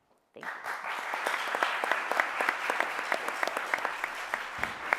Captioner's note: audience applauding